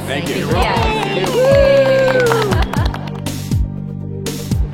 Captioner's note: cheers